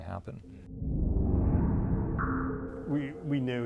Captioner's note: woosh